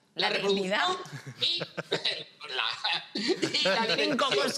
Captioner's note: laughs